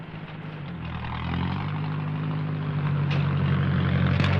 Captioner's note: engine rumbling